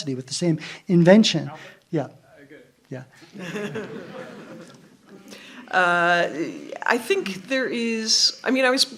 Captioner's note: laughter